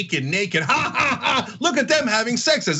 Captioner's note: laugh